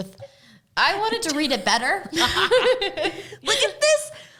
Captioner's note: both laugh